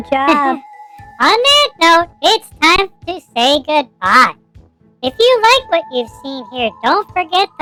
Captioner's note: laughing